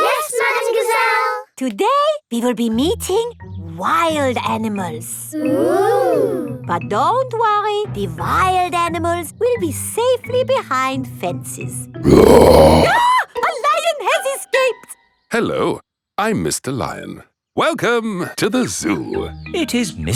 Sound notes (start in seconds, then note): 12.0 roars; 12.0 screams